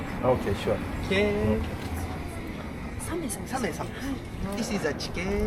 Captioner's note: speaking Japanese